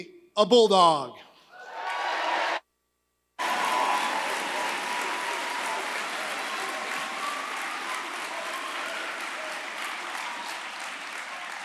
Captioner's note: applause